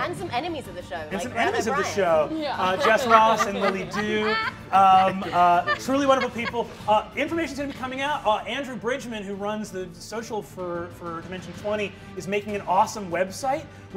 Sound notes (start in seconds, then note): 2.5 laughing